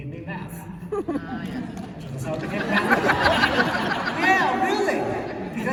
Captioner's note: laughter